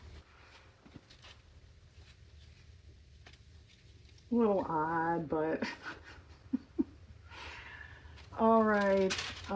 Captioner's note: laughs